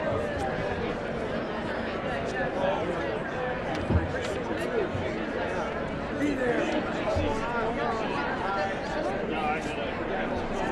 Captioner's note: indistinct chatter